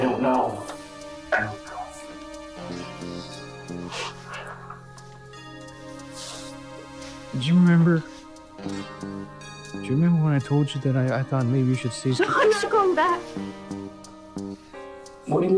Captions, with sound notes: I don't know. I don't know. (dramatic music) (Margaret crying) Do you remember, do you remember when I told you that I thought maybe - you should see someone? - No, I'm not going back.